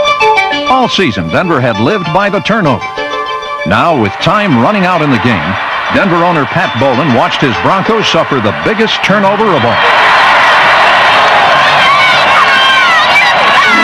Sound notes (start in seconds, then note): 9.7 crowd cheering